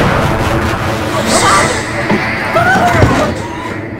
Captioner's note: dramatic music; gasping